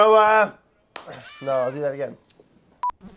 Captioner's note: glass shatters